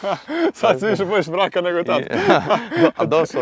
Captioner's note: laughing